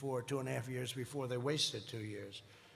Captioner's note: none